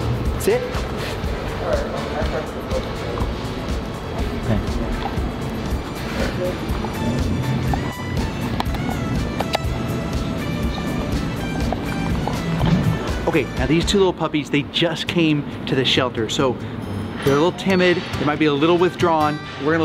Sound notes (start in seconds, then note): 1.8 playful music; 7.4 crunching